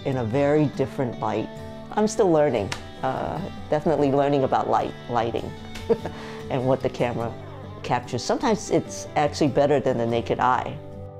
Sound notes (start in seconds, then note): 5.7 chuckling